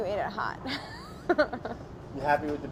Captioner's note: laughter